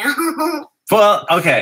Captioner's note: laugh